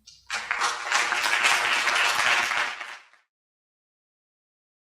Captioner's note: audience applauds